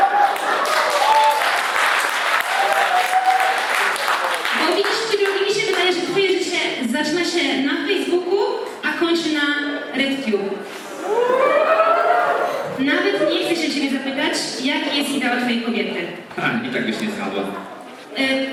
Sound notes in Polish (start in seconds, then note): 0.0 Aplauz